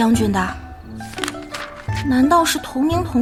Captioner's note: flipping page